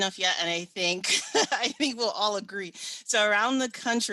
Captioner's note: chuckles